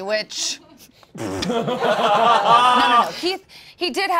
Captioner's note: all laughing